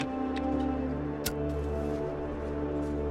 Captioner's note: lighter clicking